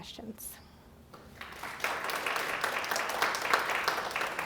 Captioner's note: applause